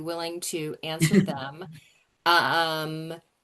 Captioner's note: chuckles